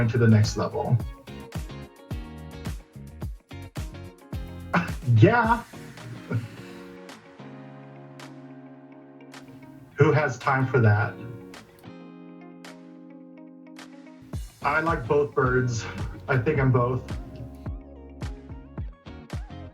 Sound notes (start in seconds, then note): 4.7 laughing